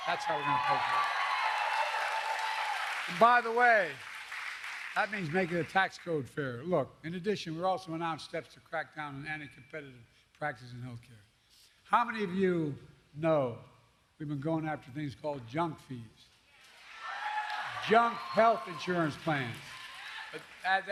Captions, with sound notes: That's how we're going to pay for it. (Applause.) And, by the way, that means making the tax code fairer. Look, in addition, we also announced steps to crack down on anticompetitive practices in health care. How many of you know we've been going after things called "junk fees" -- (applause) -- "junk health insurance plans" -- (applause) -- a- --